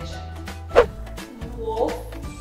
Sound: screen whooshes

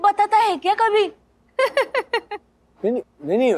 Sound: Mrs. Pani laughing

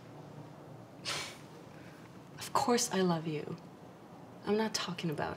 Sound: huffs

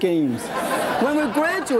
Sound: audience laughs

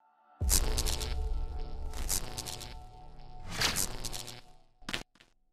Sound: electricity crackling

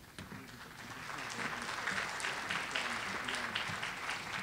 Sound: audience applauding

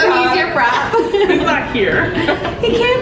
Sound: laughing

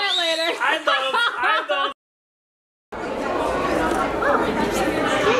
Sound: laughing

